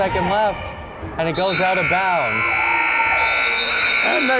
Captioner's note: buzzer